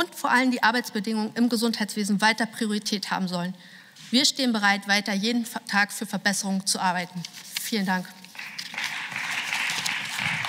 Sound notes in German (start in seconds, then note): 8.3 Beifall